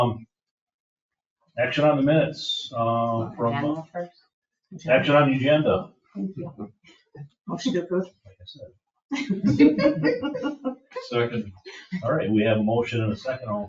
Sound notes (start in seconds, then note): 9.2 people chuckle